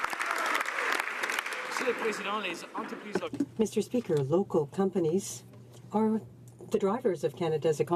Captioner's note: some Applause